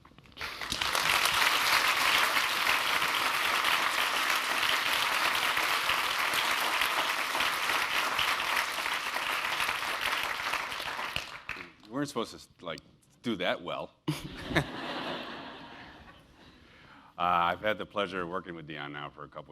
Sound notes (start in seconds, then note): 0.3 applause; 14.0 laugh